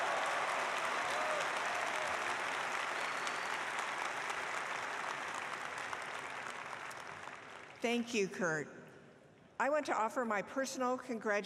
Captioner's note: applause